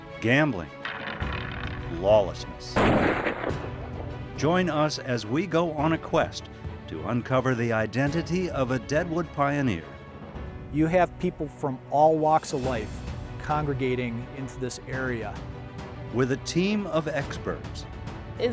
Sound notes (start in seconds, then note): 2.7 gun fires